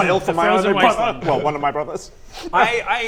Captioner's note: cries